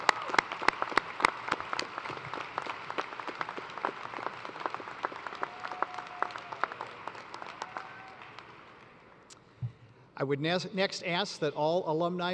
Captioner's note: applause